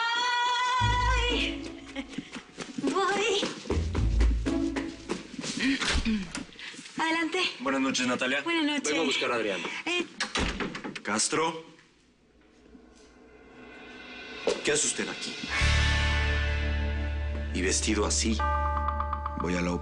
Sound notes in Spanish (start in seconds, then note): 5.8 Adriana carraspea